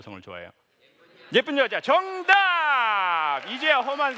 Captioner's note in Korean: 박수